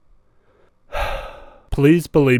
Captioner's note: sigh